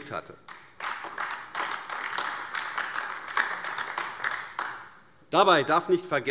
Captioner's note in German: Beifall AfD